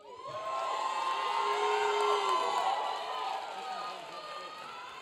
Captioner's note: audience cheering